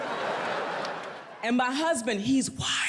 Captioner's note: audience laughs